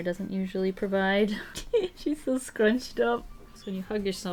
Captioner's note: giggles